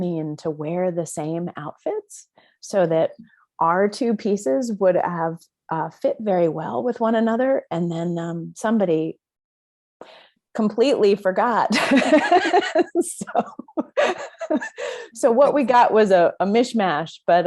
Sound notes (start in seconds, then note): 11.7 both laughing